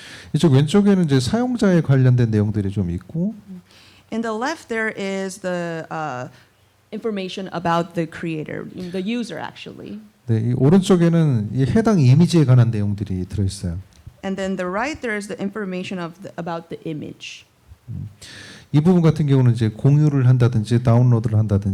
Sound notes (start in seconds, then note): 0.3 speaking korean; 10.3 speaking korean; 18.5 speaking korean